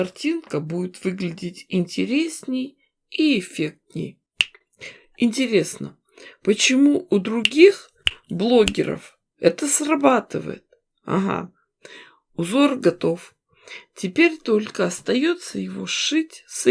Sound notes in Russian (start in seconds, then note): 4.0 щелчок пальцами; 8.6 несколько щелчков пальцами